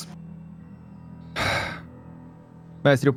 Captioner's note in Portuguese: Suspiro